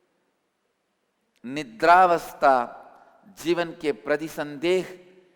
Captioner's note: hindi